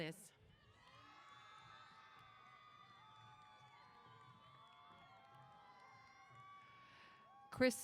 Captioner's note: applause & Cheers